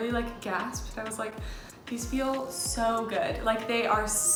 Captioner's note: gasps